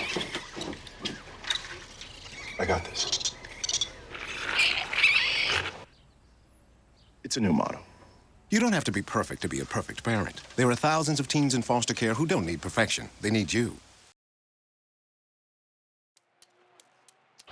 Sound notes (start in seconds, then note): 3.2 squeaking